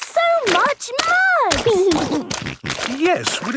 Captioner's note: snorting